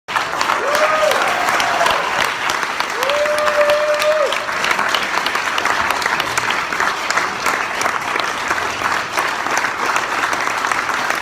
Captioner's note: applause